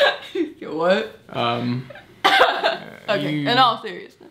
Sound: laughs

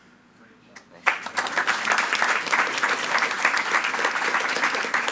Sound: attendees clapping

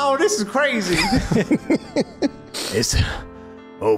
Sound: laughs

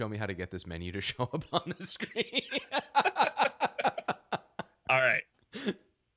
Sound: both laughing

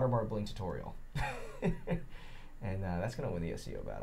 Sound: chuckling

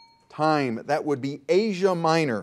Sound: bell dings

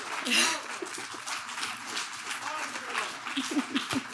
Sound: laughs

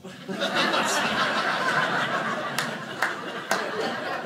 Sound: audience laughing

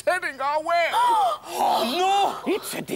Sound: gasp!

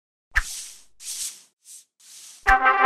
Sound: dry swishing noises; trumpet fanfare

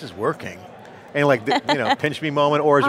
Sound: laughs

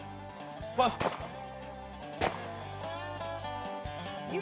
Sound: gun fires

